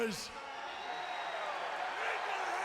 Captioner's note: audience cheering